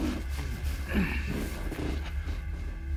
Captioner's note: grumbling